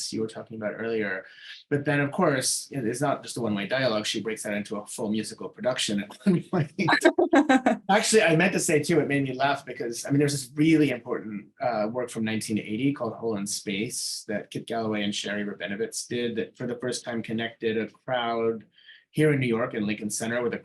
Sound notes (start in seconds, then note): 6.4 both laughing